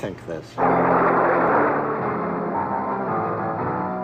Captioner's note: thunder crackling; spooky piano music